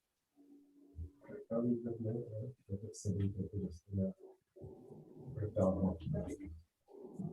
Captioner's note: indistinct conversation